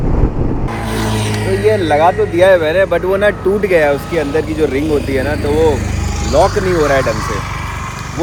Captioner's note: traffic noise